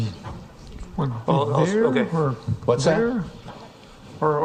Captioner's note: inditinct chatter